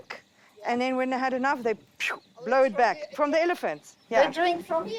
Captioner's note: imitates snorting